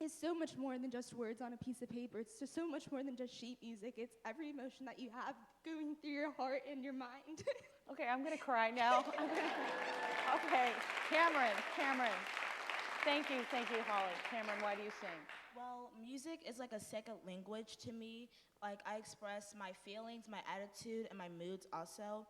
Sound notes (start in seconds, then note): 8.9 chuckles; 10.7 applause